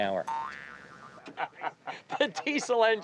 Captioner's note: springing bounce; laughing